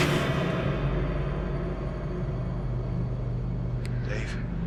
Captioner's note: dramatic noise